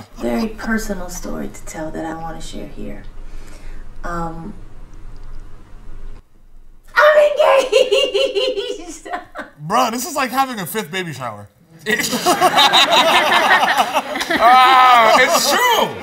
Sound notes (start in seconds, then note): 7.4 laughs; 11.8 laughs